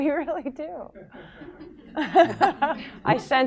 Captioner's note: laughter